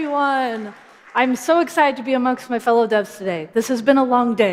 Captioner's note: applause